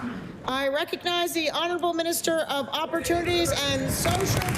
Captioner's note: applause